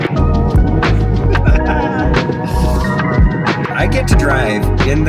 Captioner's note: host laughing